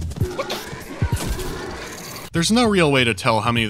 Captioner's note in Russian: сердитые звуки инопланетного монстра